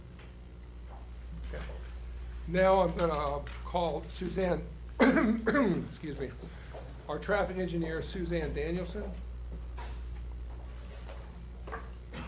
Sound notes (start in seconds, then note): 4.9 coughing